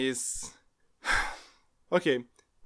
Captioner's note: sigh